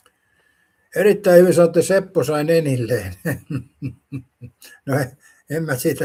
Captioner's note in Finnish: naurua